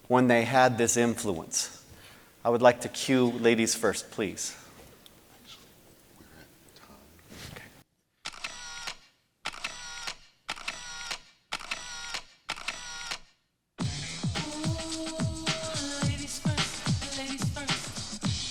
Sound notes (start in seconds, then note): 8.2 camera clicking